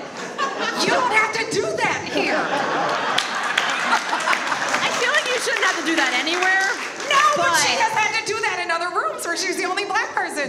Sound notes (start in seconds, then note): 2.0 all laugh; 2.4 audience applauds